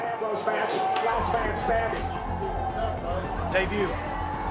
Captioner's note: chatter